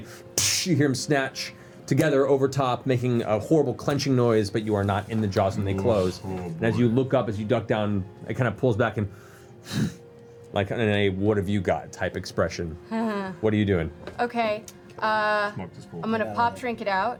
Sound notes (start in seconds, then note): 9.7 snorts